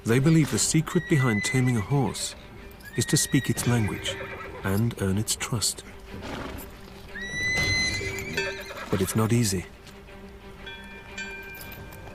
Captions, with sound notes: They believe the secret behind taming a horse is to speak its language and earn its trust. (horse neighs) But it's not easy.